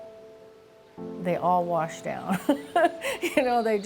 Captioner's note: laughs